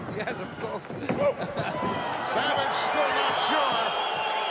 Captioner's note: laugh